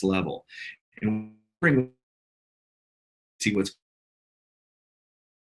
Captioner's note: audio glitches